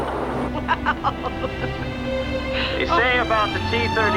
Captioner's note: laughing